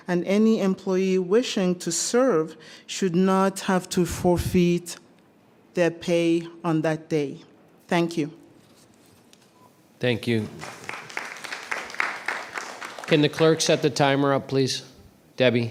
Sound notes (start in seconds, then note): 10.3 applause